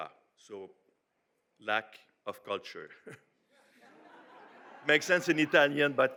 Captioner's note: audience laughs